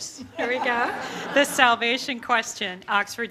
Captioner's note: audience laughter